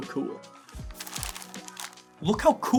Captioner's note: paper crumpling